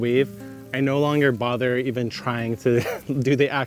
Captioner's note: laughs